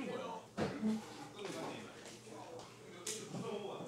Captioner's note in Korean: 떠드는 소리; 의자 끄는 소리